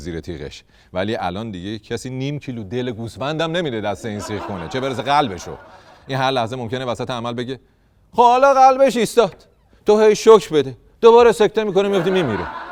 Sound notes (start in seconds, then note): 4.1 laughter